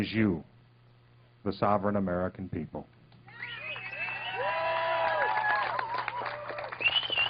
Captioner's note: cheers and applause